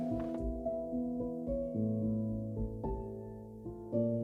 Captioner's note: shovel scratching